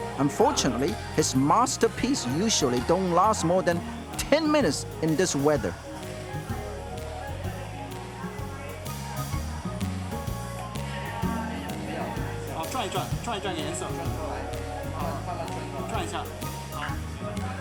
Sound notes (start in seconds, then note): 6.9 flute and cymbal playing; 12.7 distant foreign language spoken